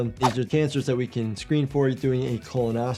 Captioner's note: none